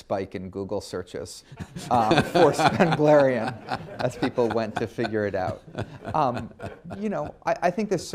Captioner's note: laughter